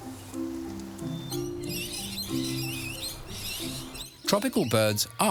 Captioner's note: birds squawking